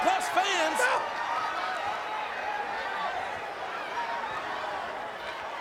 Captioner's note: crowd shouting